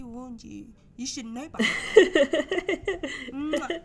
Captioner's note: giggling